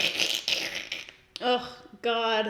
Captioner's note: scoffs; imitating scraping sounds